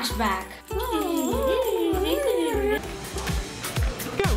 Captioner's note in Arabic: أصوات سخيفة